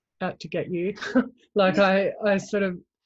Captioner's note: chuckles; scoffs